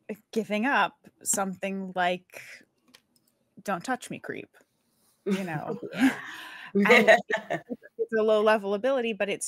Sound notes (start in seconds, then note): 6.8 laughs